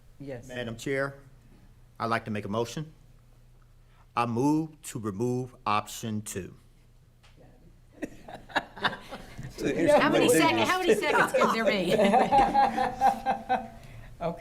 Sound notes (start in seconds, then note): 8.0 laughing; 8.0 others talking and laughing; 12.3 laughing